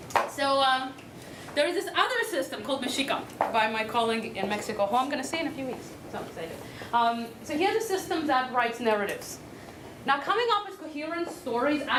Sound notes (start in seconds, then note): none